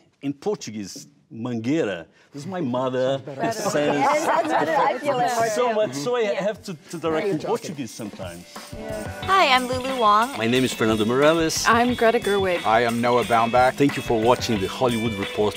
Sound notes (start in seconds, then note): 3.2 laughing; 9.1 energetic music